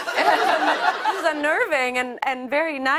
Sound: laughter

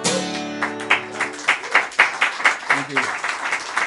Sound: applause

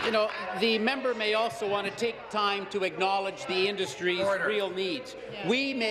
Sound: applause

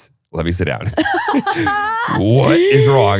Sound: both laughing

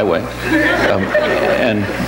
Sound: audience laughs

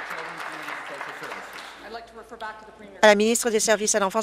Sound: applause

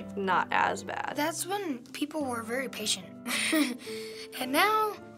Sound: chuckles

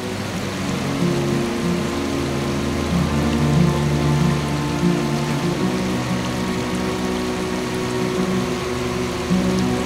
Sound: sound of flowing water from the stream

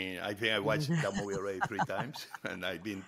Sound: Hoda laughs

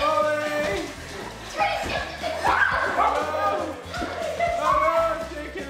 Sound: excited chatter and laughter

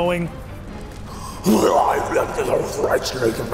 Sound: growling

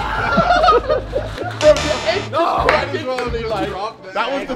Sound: crash and group laughter; buzzer sound

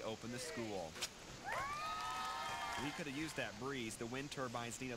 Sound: cheering

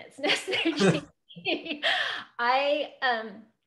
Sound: laughs

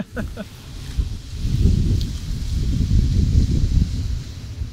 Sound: wind blowing

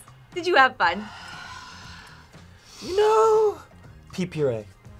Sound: sighs

